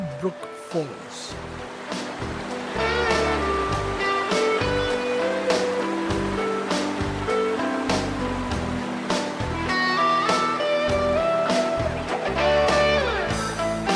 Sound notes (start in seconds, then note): 2.6 rock music; 5.4 sound of waterfalls